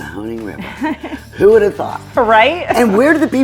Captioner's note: woman chuckles